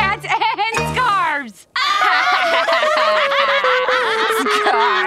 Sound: laughing

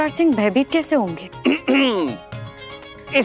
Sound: clears throat

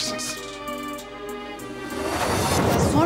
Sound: transition sound

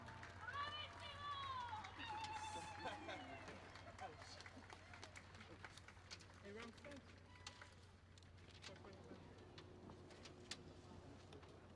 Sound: cheering and Applause

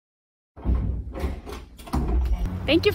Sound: door opening

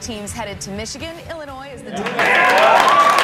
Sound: Badgers applause

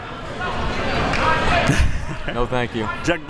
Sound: laughs

